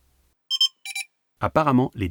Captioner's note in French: Bip